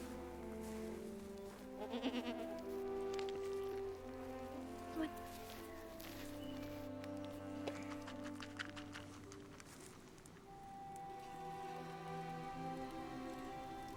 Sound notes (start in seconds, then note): 1.8 goat bleats; 6.9 orchestral music